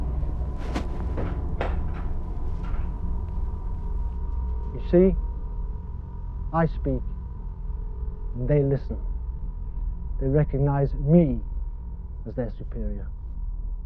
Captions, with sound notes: (rifle clatters) You see? I speak and they listen. They recognize me as their superior.